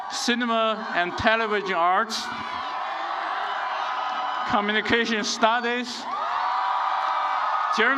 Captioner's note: applause